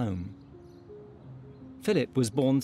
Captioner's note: birds chirping; gentle music